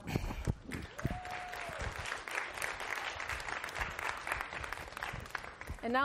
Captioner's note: applause